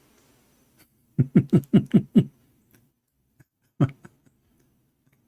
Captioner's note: Ketawa